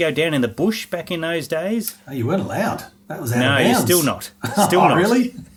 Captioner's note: both laughing